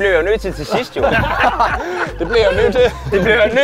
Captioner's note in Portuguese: Risada